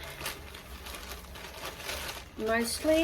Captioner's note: plastic bag rustles loudly